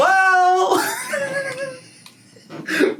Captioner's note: laughs